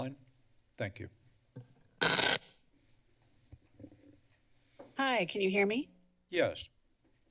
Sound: screeching sound

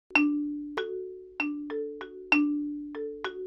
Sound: bells chiming

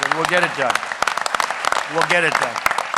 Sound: applause

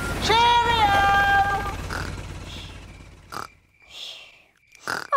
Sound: baby alexander snoring

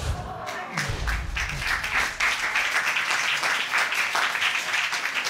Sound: applause

